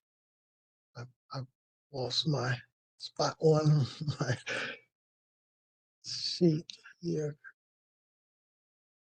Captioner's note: laugh